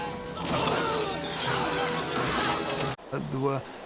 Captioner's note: groaniflg